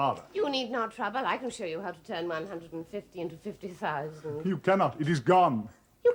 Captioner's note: none